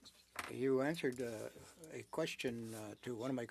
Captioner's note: speaking French